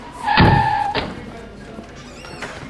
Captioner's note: tires squealing